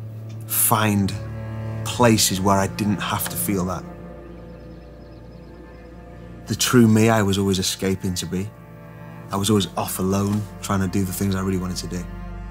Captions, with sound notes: find places where I didn't have to feel that. (birds chirping) The true me, I was always escaping to be. I was always off alone trying to do the things I really wanted to do.